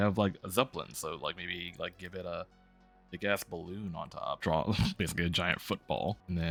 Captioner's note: laughs